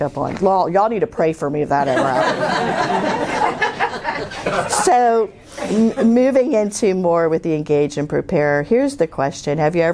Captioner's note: laughter